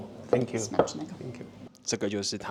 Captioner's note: Polish